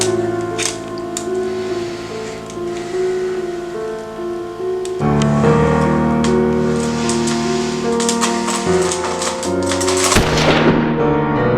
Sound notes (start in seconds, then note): 6.1 inhales and Exhales Deeply; 10.1 gun Shot